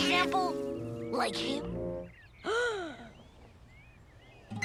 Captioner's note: Owen's mom gasps